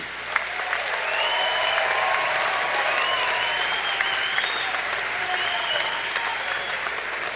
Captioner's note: applause